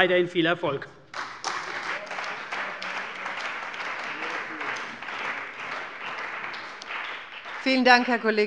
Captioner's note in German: Beifall bei der CDU und dem BÜNDNIS 90/DIE GRÜNEN